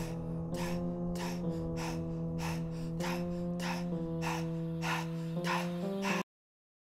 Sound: heavily breathing

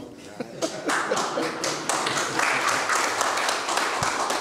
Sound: clapping

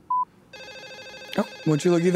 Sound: phone rings

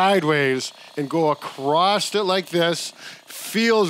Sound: massager buzzing

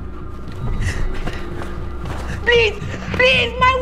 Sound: gasps

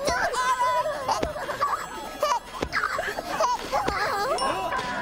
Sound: hiccuping

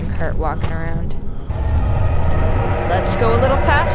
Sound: distant monster noises

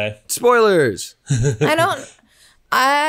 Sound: laughs

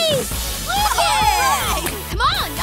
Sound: cheering

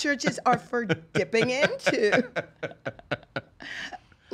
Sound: laughing

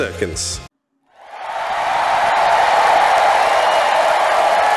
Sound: audience cheering

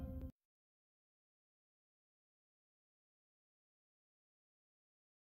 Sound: silence

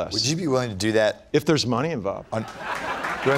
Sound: laughter / Applause

